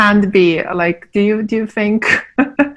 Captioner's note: laughing